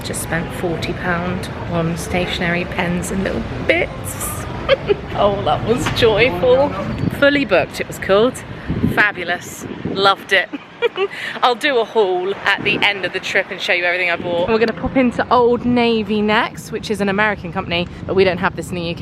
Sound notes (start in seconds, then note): 4.3 laughs; 10.5 laughs